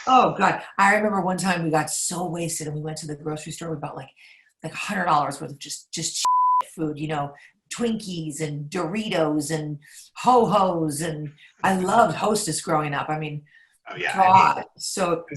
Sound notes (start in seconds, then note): 6.2 beep